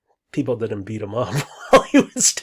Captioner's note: laughs